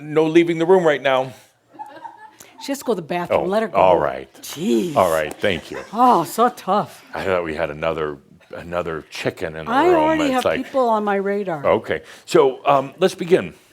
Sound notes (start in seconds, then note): 1.7 a few giggles